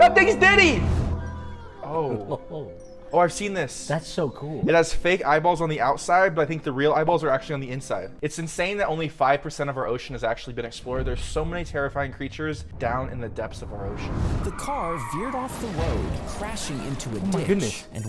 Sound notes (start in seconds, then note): 2.3 chuckles